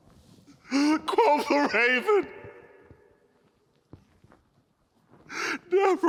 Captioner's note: sobbing